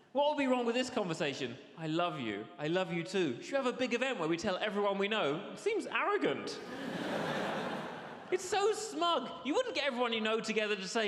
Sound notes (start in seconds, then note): 6.6 audience laughs